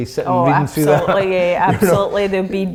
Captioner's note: laughing